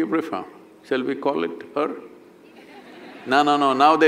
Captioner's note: laughter